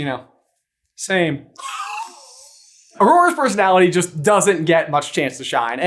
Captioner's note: wheezy roast laugh